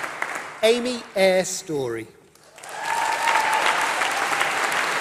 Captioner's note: applause